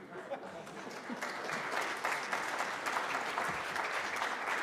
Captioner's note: applause